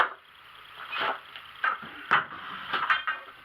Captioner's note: clank clunk clank